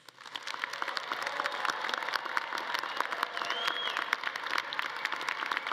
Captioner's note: all clapping; audience cheering